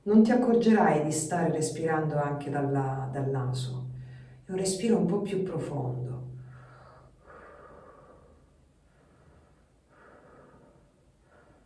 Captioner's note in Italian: sospiri